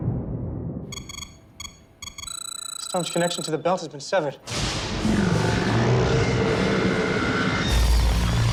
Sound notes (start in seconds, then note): 0.9 machine beeping; 5.0 growling